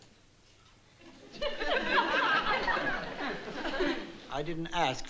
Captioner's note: audience laughing